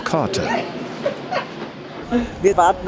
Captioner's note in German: Lachen